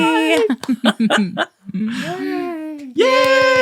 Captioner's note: laughing